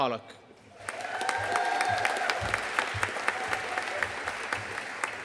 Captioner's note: audience cheering and applauding